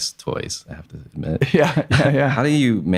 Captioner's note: laughs